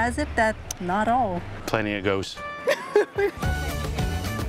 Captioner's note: laughs